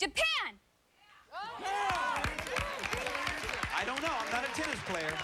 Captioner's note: applause